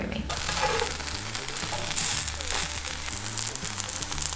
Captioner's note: sizzling sound